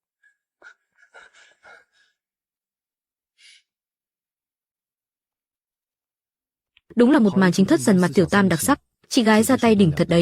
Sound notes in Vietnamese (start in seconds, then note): 0.6 thở hổn hển